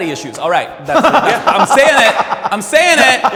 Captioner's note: comics laughing